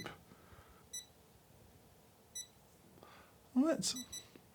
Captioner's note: scale beeping